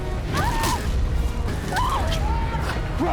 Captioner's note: screaming